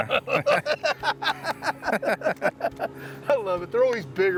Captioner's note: both laughing